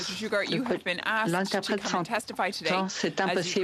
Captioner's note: mixed voices